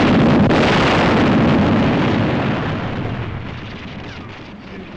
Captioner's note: explosion